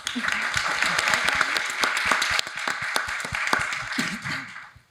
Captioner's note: audience applauding